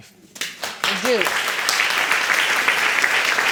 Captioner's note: audience applauding